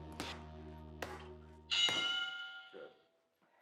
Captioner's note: bell rings